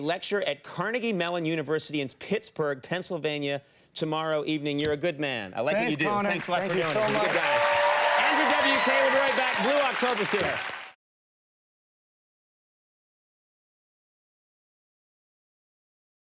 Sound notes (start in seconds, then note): 7.9 audience applauding